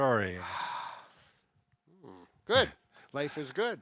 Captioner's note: deep sigh